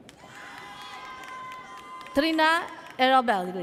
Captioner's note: audience cheers